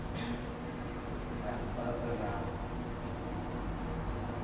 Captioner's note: speaking in Mandarin